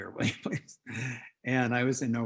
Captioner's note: laughs